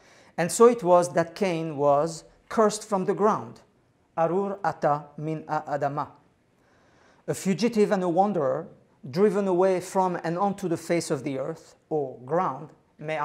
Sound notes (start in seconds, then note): 4.3 non-english speech; 12.9 non-english speech